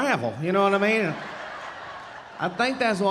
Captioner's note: audience laughing